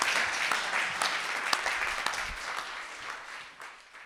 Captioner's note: audience applauding